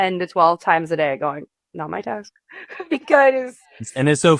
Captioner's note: chuckles